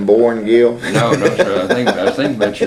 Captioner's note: laughs